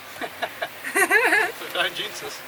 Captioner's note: laughing